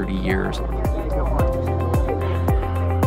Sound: people chattering

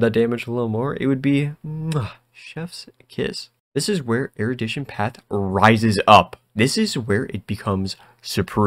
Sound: chef’s kiss

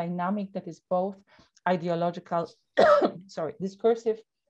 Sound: coughing

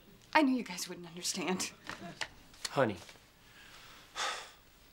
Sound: sighs

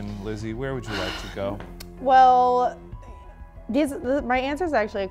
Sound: none

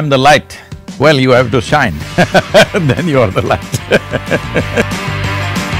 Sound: laughs

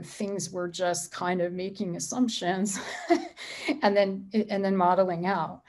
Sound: laughs

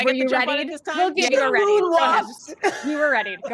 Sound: laughing

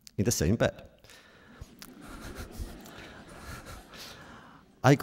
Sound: laughter

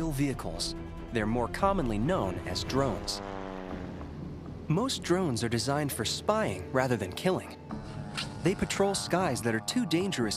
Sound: drone whine

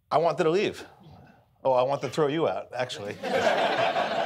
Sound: audience laughing

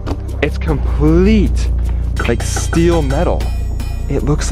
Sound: steel clanging

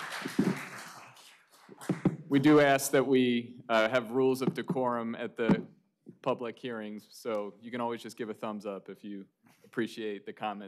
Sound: applause

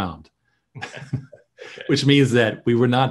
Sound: laughs

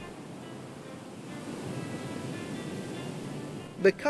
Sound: waves crashing

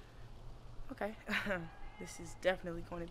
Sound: chuckles

